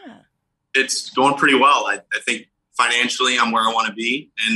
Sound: laughs

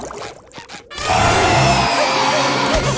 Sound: roaring; laughing

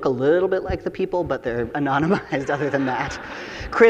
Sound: chuckles; audience laughing

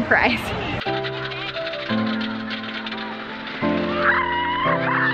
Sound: roller coaster clicking; shrieks

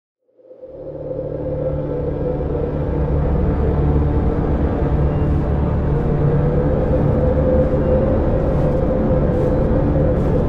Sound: dramatic sounds of wind and someone walking

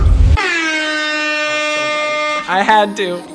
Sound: air horn blowing

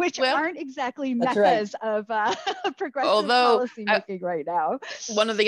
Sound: laughs

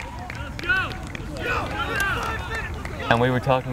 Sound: players talking and yelling

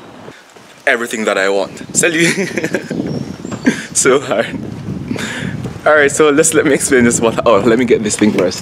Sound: laughs

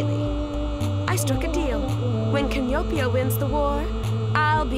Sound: none

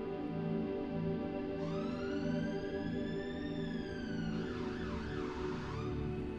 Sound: siren blaring

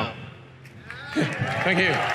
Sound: audience clapping

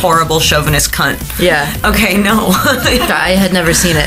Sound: laughing

